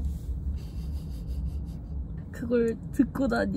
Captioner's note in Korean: 헛웃음